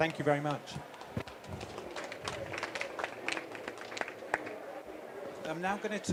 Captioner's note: applause